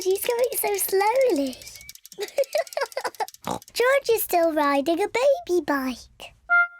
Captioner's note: bicycle bell ringing; laughs, snorts